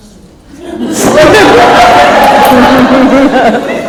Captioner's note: laughs